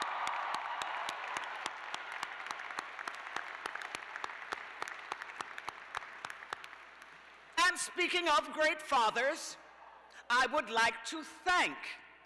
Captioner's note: cheers and applause